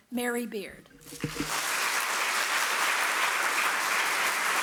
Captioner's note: audience applauding